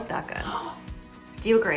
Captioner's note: mom gasping